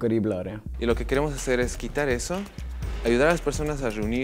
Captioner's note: Spanish